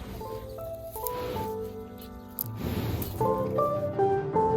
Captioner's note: cow sniffs; bright music